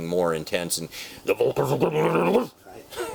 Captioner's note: laughs